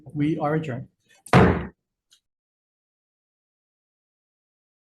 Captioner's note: gavel thudding